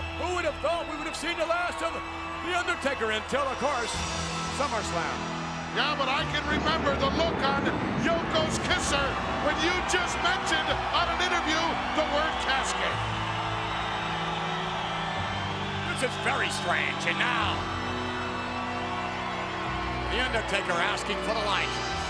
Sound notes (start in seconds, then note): 4.9 ominous music continues; 13.8 audience cheers